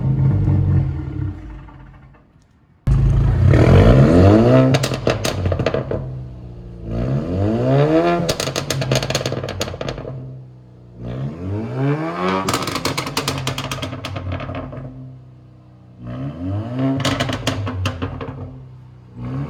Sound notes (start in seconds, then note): 3.6 car engine revving; 4.9 exhaust popping; 7.1 car engine revving; 8.5 exhaust popping; 10.9 car engine revving; 12.1 exhaust popping; 15.8 car engine revving; 16.8 exhaust popping; 19.3 car engine revving